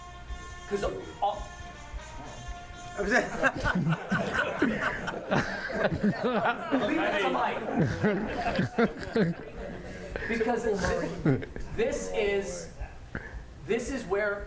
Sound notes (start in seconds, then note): 0.0 audience phone plays; 10.3 laughter